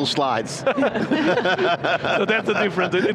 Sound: all laughing

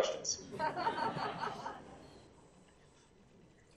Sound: laughing

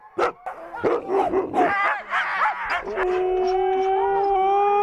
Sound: dogs barking; dog howling

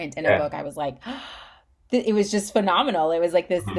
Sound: gasps

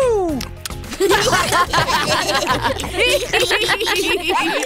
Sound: laughter

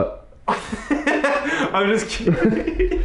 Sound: laughs

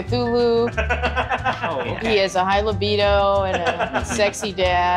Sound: laughing

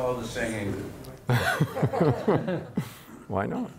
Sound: audience and panelists laughing

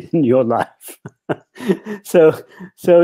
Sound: chuckles

